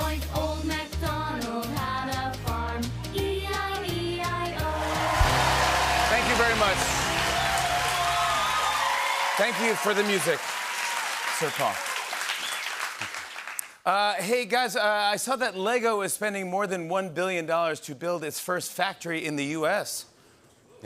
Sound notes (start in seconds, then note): 7.1 cheering, whistling, and applause; 12.2 whistling